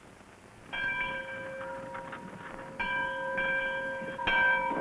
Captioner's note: church bell ringing